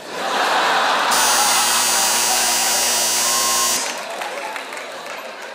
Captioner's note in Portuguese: campainha